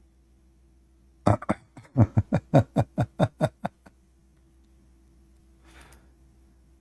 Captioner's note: Ketawa